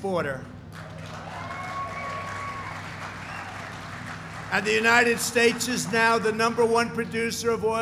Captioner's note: applause